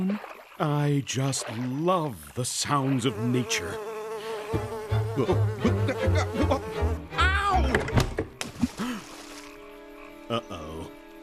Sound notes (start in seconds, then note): 6.3 buzzing; 7.8 stammering; 8.3 splashes